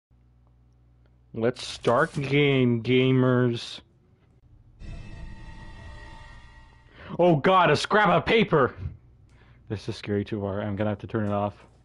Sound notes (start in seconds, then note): 4.7 spooky noise